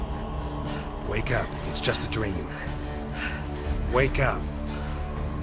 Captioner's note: rapid, heavy breaths